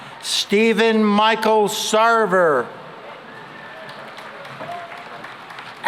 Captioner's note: applause